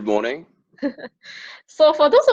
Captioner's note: laughs